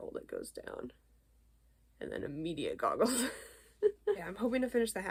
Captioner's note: laughs